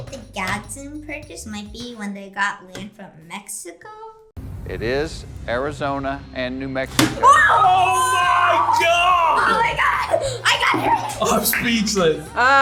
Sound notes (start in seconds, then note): 10.1 laughs